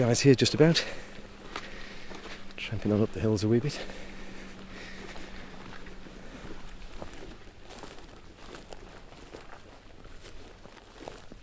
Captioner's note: boots cruching